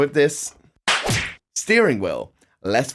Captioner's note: slap